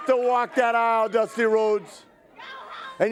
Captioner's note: crowd cheering